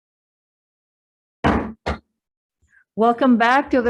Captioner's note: gavel bangs twice